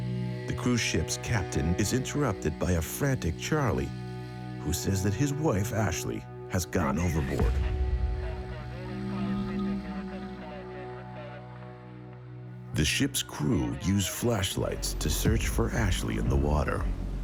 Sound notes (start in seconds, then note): 8.1 muffled voice speaking on radio